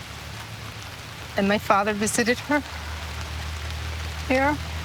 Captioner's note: voice trembling